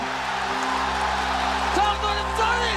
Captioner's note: crowd cheering